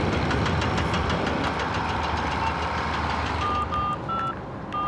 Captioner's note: crane puttering; phone beeping